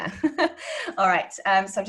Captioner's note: laughing